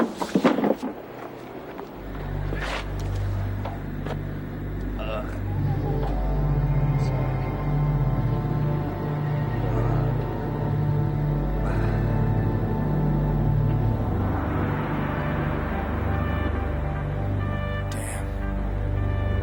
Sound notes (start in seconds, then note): 5.7 gasping; 5.7 sad music